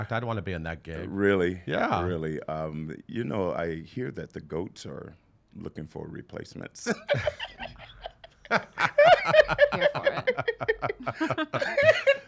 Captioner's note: laughs